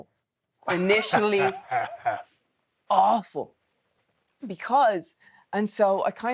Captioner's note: Steve laughing